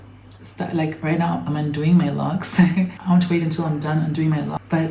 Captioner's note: chuckles